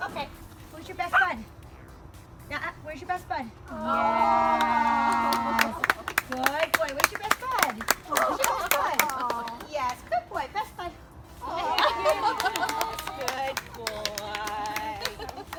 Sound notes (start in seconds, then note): 3.8 crowd; 11.4 crowd